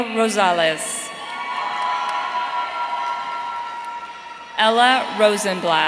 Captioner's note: audience cheering